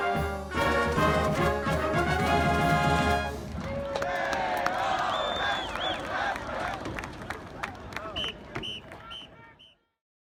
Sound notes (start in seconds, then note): 4.0 crowd chanting; 6.6 applause; 8.6 whistle blowing